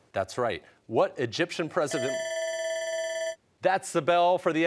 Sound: bell ringing

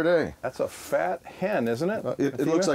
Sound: voiceover

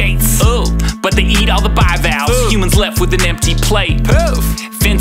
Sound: poof

